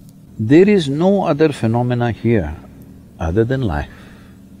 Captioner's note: none